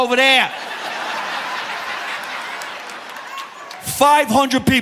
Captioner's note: audience laughing